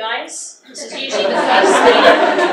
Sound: audience laughs

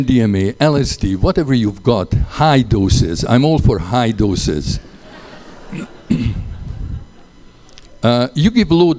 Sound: laughter

